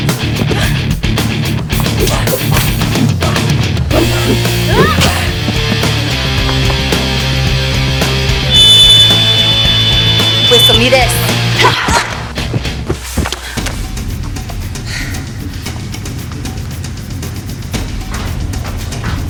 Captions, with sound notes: (both grunting) (whistle blowing) Whistle me this. (grunting) (tense music)